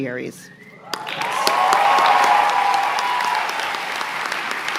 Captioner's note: applause